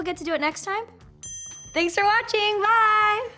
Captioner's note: dinging effect